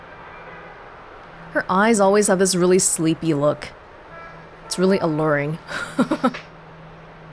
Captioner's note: chuckles